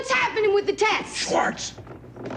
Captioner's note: harsh whisper